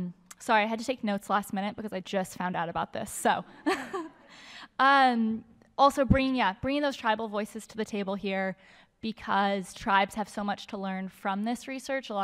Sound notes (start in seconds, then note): 3.6 laughter